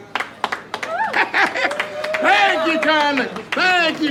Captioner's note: crowd clapping